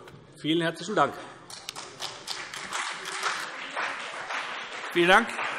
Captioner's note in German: Beifall CDU und BÜNDNIS 90/DIE GRÜNEN